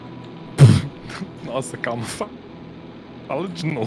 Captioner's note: laughs